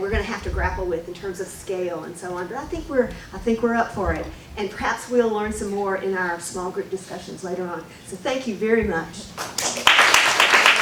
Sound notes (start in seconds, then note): 9.4 applause